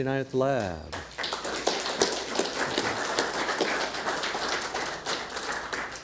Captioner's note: applause